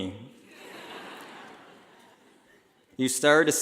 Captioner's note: laughing